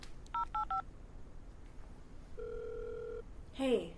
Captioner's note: phone beeping